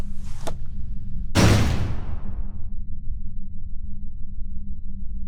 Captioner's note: cell door slamming noise